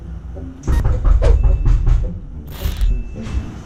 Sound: knock knock

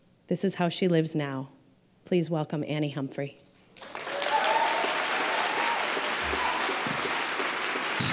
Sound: applause

